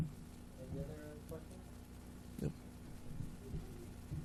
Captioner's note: murmuring